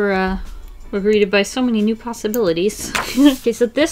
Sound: giggles

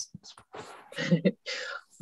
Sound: chuckling

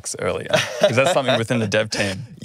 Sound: laughing

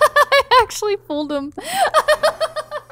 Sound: laughs; laughs

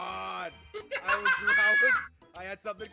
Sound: laugh

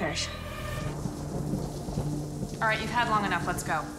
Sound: water pattering

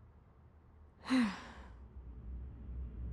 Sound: sighs

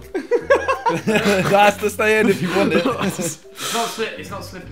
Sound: everyone laughing

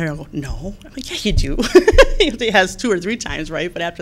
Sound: laughs

